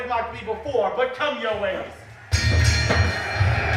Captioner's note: bell rings